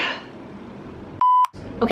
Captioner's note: beep